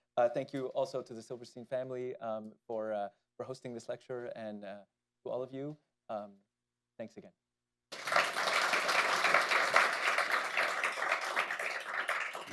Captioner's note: applause